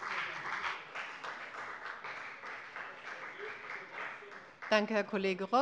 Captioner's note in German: Beifall bei der FDP